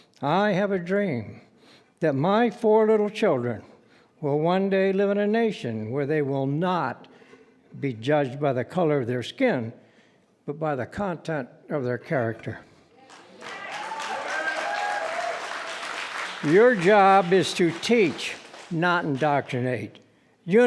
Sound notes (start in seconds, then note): 13.0 cheering and applauding